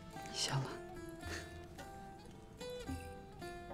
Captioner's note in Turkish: Dündar gülme sesi